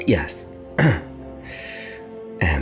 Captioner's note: clears throat